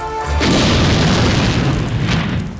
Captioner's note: grenade explodes